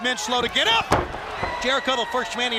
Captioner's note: crowd chatter